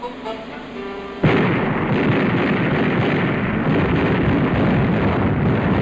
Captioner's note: sound of gun fire